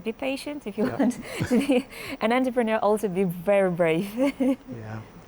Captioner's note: laughs